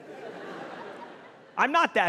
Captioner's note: audience laughing